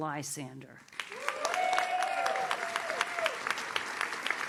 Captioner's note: audience cheers